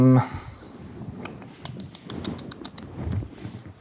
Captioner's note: clicking tongue